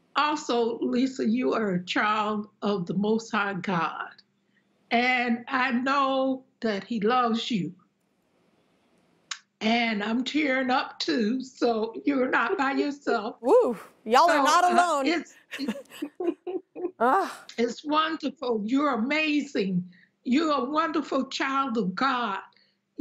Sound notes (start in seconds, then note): 15.5 chuckles while crying